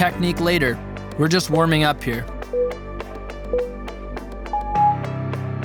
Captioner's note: timer beeping